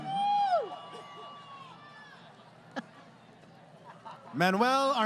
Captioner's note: crowd Cheering